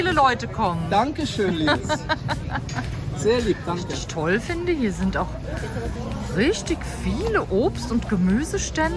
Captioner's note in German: gelächter